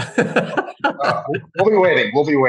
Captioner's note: laughs